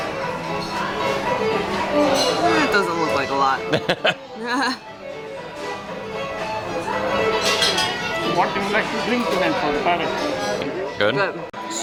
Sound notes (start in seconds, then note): 3.6 chuckling